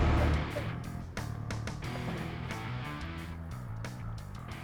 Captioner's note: engine stops